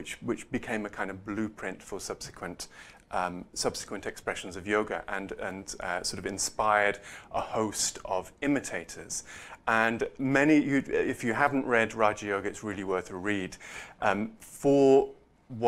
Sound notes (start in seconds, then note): none